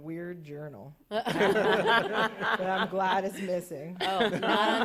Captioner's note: laughter